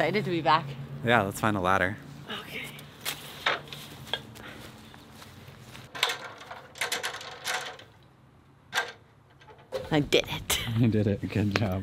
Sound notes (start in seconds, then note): 5.7 ladder clunking